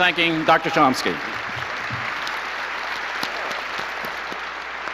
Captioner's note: audience applauds